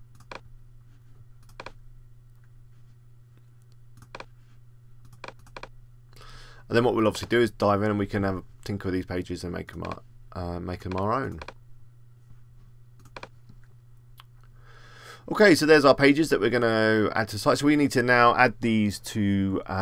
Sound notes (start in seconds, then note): 6.3 tick on 00:31:30